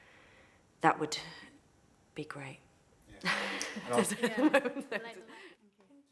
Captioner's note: laughs